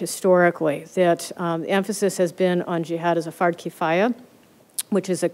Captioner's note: arabic